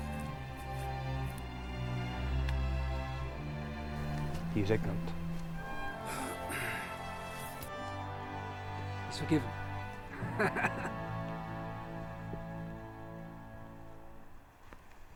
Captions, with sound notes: He's ignorant. - That's it lad, concentrate - He is forgiven (laughing).